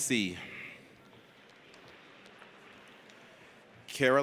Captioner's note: audience applauds